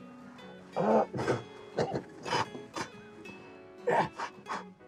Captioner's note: Isaac gasps and coughs